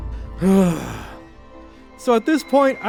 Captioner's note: sigh